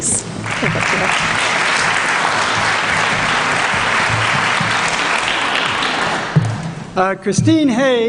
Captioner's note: applause